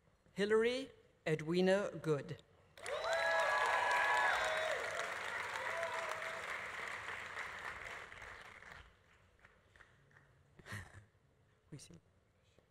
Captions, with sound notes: Hilary Edwina Good. (audience applauding) (audience cheering) How do you say it?